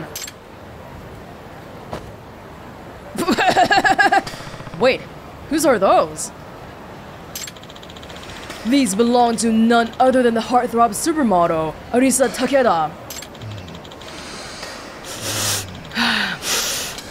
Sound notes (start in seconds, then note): 3.2 chuckles